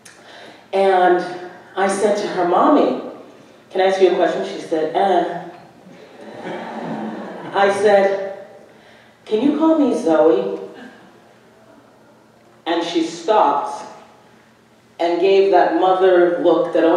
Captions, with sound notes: And I said to her, "Mommy, can I ask you a question?" -She said, "Ehh." -(audience laughing) I said, "Can you call me Zoe?" And she stops and gave that mother look